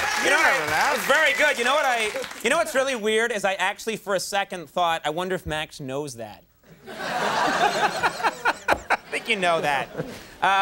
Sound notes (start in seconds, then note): 6.7 audience laughing